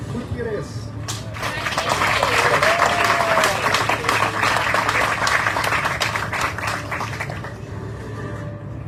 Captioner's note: audience cheering, applauding